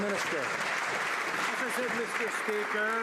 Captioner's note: some Applause